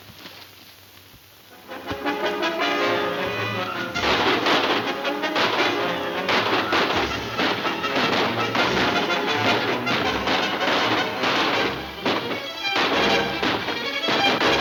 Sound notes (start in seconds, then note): 0.2 thrilling music; 2.5 guns firing